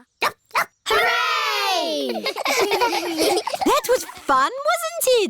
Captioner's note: barks; giggling